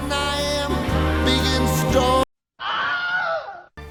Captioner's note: guy screams